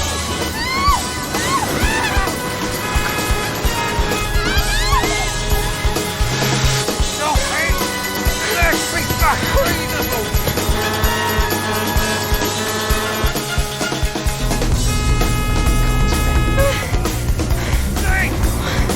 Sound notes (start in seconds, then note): 6.7 shouting; 10.5 horn honking